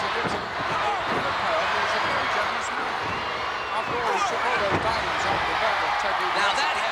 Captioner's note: body thudding